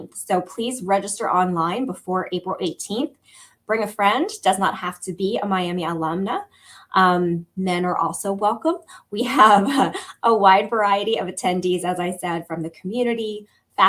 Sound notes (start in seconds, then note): 8.9 laughter